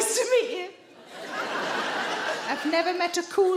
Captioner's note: audience laughing